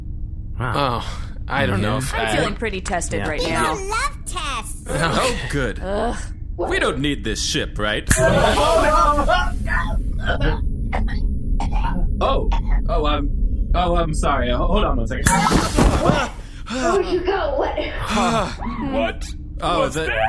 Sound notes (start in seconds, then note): 4.9 sighs; 8.1 snaps fingers, choking noises; 15.7 snaps fingers; 19.0 alarmed